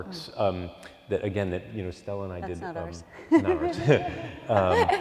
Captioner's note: laughs